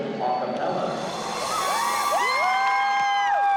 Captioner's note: cheering